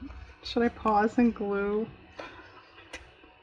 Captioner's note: laughs